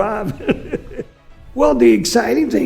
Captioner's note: laugh